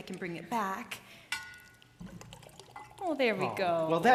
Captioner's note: poured vinegar glugging